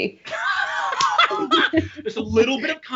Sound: Brennan laughing

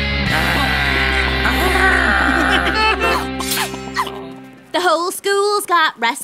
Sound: growling

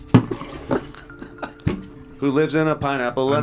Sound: chuckles

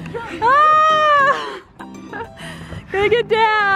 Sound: yelling

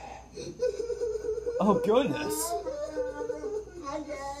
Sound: sobbing

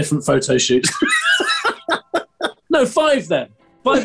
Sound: laughing

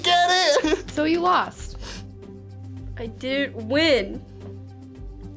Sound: sniffling

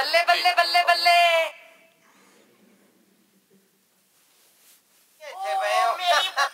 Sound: recording of non-English speaking playing

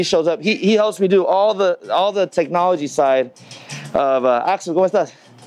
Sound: speaks Spanish

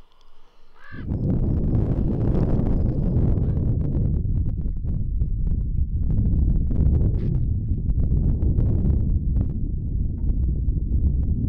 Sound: crow caws; wind blowing loudly

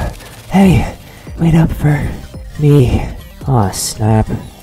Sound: Crazy Food out of breath; panting

